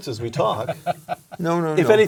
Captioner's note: laugh